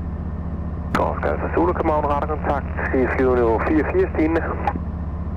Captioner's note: Danish